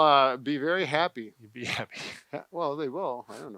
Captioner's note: laughs